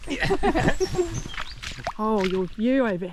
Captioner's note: splosh